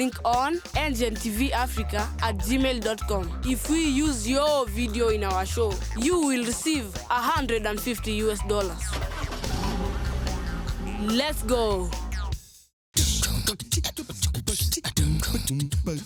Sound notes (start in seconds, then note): 8.9 car engine roaring; 13.2 upbeat music